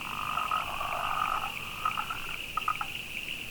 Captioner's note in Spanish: croar de ranas al fondo